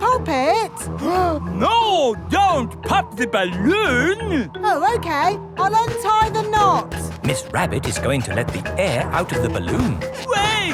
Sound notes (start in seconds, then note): 1.5 gasps